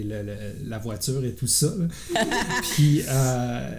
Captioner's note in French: Rires